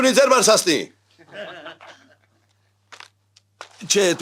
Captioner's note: haha